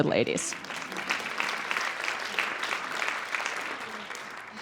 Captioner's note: audience applauds